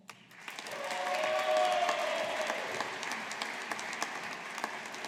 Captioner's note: audience applauding